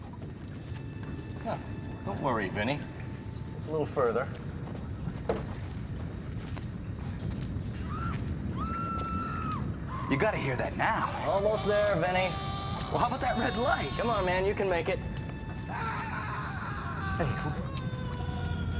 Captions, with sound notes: - Don't worry, Vinny. Just a little further. (woman screaming) - You got to hear that now. - Almost there, Vinny. (man screaming) - Well, how about that red light? - Come on man. You can make it. (man screaming)